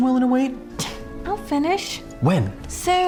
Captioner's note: scoffs